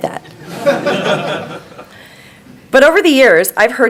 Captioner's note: crowd laughing